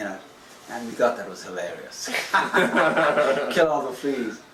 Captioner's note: laughter